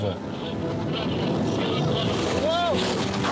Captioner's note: radio chatter; waves crashing